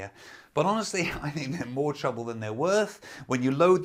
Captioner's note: laughing